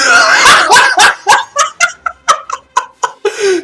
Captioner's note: laughs